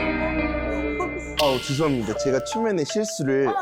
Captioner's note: coming-to-his-senses sound effect